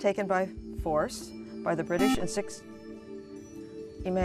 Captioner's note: buzzer